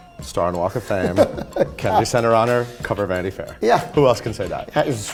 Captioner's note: laughs